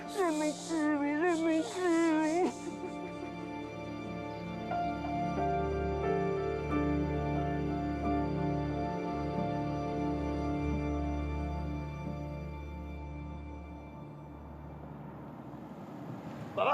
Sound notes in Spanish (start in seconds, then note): 14.1 sonido de motor